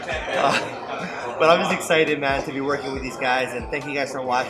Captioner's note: laughs